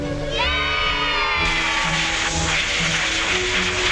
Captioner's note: gnomes cheering